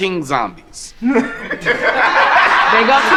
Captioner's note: group laughing